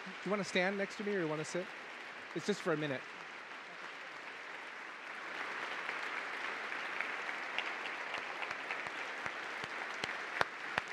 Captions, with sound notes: You want to stand next to me or you wanna sit? It's just for a minute. (audience applauding)